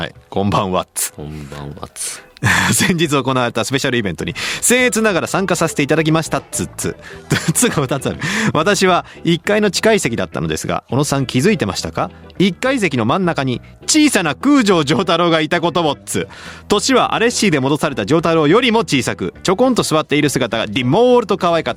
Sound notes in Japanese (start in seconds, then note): 2.3 笑い; 6.9 笑い